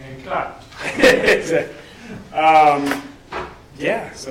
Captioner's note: laughs